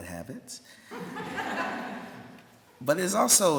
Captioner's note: laughter